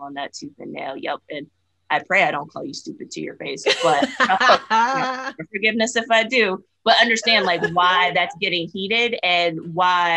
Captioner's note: laughter